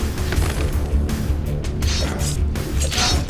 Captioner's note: thudding